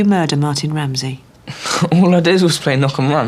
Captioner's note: scoffs